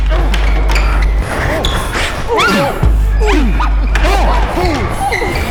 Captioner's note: both grunting